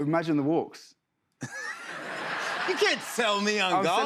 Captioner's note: laughter